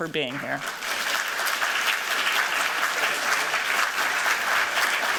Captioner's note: applause